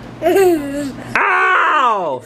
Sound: laughs

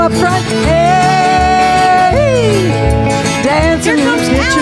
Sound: yelling

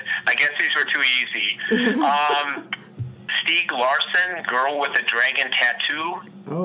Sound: laughs

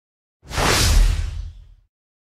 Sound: swoosh!

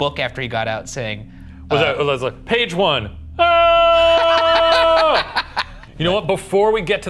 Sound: screams

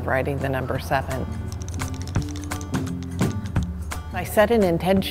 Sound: brush tapping

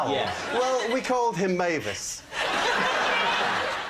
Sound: laughter

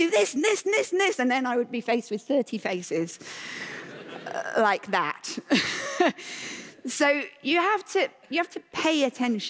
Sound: laughter

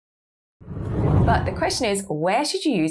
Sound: screen whooshes

